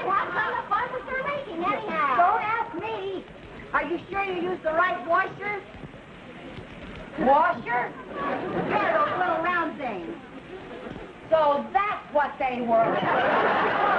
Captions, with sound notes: - Well, how come the faucets are leaking anyhow?! - Don't ask me! - Are you sure you used the right washer? - Washer? (audience laughing) - Yeah, those little round things. - So, that's what they were! (audience laughing)